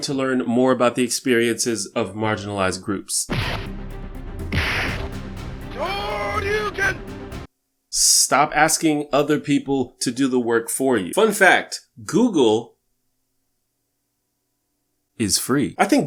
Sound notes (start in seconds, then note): 3.3 punching sound effects